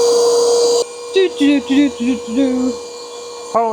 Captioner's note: sawing